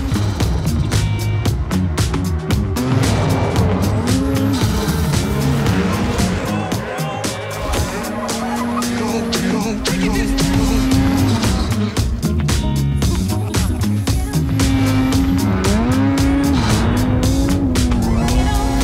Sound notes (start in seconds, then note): 0.0 engine revs; 0.3 upbeat music; 12.0 upbeat music; 13.0 laughter; 14.9 engine revs